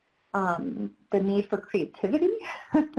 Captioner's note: laughs